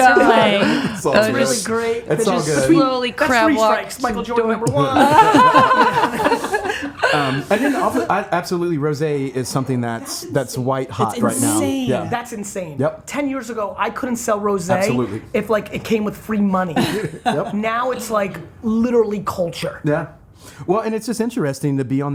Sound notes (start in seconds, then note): 4.8 all laughing